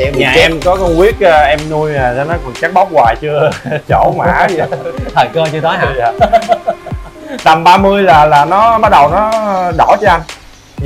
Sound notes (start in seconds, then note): 6.6 laugh